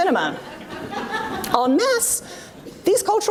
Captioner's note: audience laughs